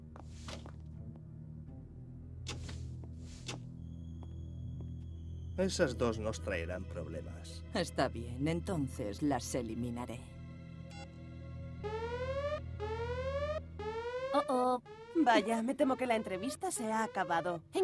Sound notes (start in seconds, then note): 11.8 alarm sounding